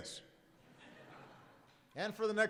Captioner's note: laughter